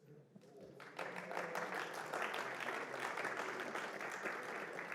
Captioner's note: applause